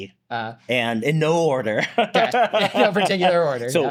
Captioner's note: laughs